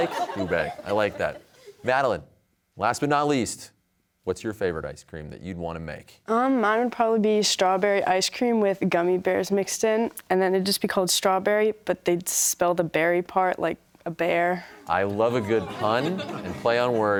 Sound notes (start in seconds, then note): 15.1 audience chuckling